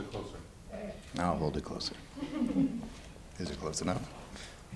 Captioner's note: audience chuckles